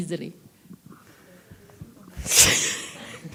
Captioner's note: laughs